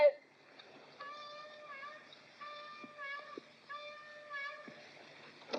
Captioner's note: horn blows in distance